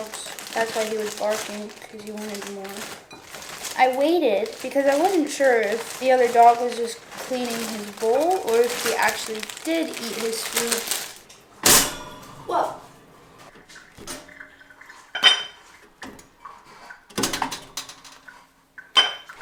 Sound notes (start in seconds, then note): 11.6 toaster pops